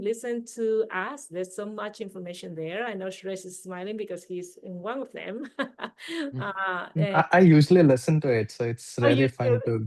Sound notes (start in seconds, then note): 5.3 chuckling